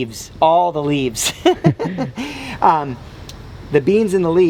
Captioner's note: laughter